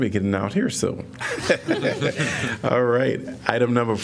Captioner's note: laughter